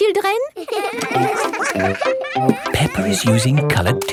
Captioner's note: all giggling